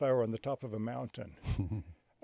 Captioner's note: chuckles